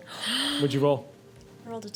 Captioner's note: gasping